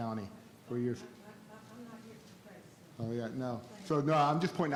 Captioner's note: faintly speaking